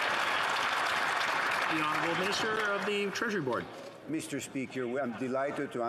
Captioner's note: some Applause